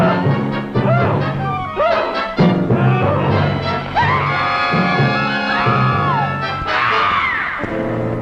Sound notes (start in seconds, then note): 3.2 small Dove screaming